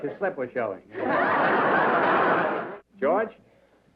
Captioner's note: laughter